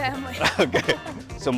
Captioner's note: laughs